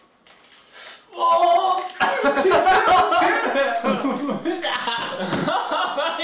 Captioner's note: laughter